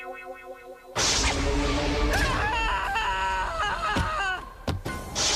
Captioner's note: screaming